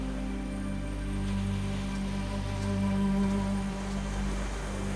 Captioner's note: waves crashing